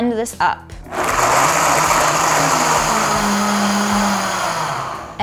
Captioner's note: blender whirling